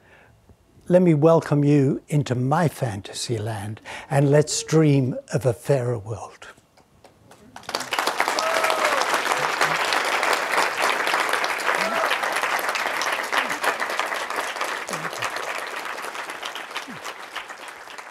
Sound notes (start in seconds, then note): 6.8 audience applauding